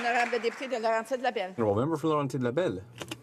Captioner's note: applause